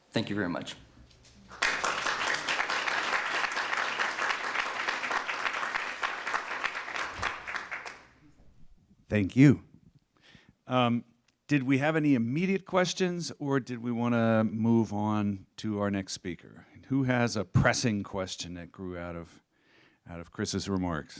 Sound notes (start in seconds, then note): 1.4 applause